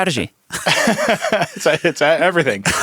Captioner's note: laughing